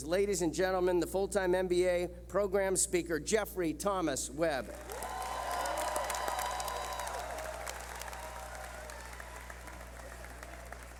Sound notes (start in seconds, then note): 4.7 clapping